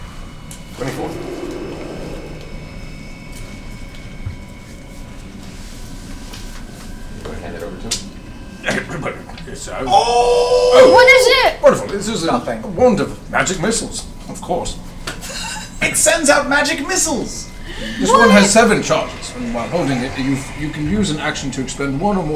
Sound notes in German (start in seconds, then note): 15.3 lacht